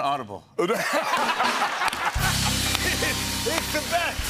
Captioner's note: laughter